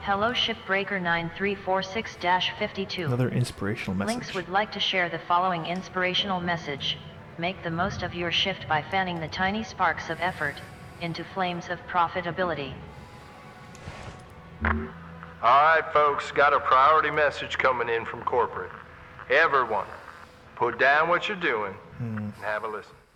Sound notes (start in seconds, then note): 0.1 Hab Voice